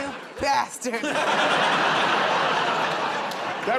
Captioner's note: laughter